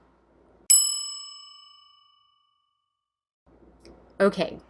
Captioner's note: bell dinging